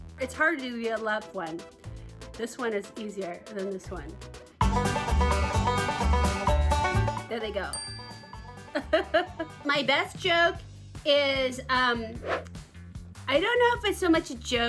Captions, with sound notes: It's hard to do the left one. This one is easier than this one. (upbeat country music) There they go. (bell chimes) My best joke is, I don't know if it's so much joke